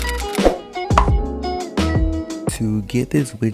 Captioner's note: typewriter clicking; popping